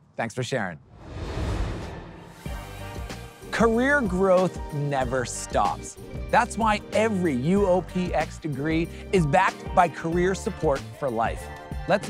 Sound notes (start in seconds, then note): 0.8 transition whooshing; 0.9 upbeat music